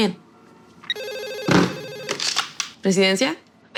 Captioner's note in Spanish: Suena el teléfono